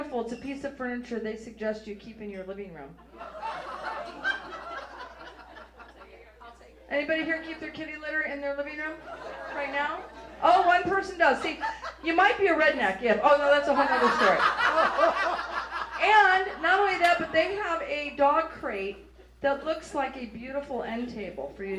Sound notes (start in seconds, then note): 3.0 audience laughs; 13.4 audience laughs